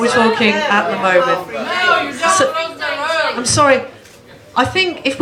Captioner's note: general disagreement